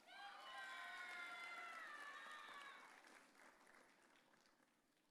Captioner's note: audience cheering